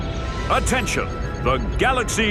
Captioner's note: none